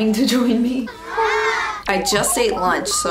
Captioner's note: children Aww